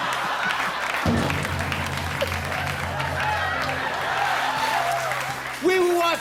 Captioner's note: laughs; cheers and applause